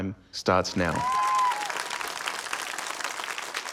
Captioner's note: cheering, applause